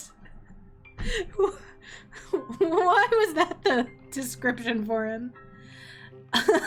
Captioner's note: laughs